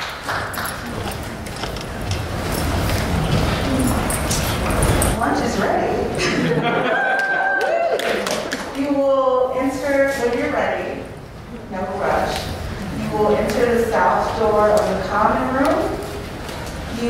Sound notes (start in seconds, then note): 6.2 laughter and cheering